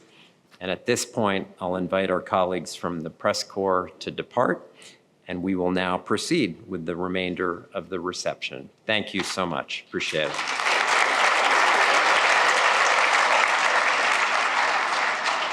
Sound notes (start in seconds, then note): 10.1 applause